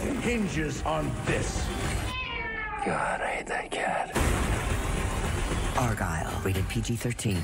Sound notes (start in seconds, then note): 1.8 meow